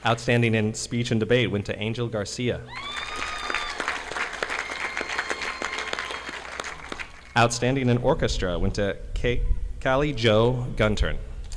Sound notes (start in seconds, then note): 2.7 audience applauding